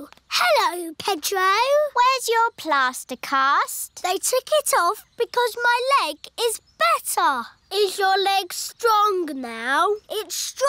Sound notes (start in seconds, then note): none